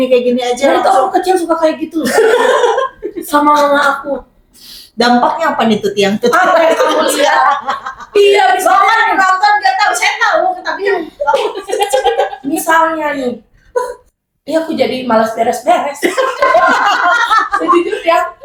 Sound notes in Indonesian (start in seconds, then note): 2.0 tertawa; 6.3 tertawa; 11.1 tertawa